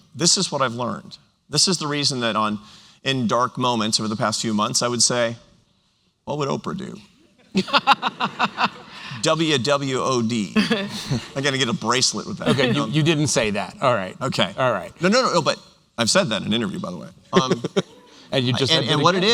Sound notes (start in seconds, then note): 7.3 laughter